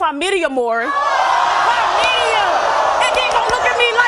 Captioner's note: audience yelling